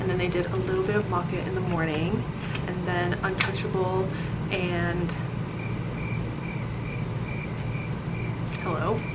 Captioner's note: crickets